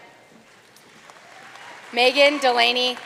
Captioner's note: audience cheering and applauding